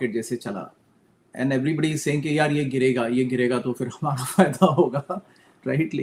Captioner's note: laughter